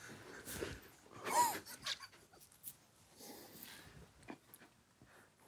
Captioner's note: group quietly laughing